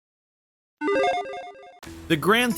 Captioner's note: logo beeps